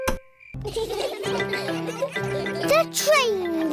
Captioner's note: laughter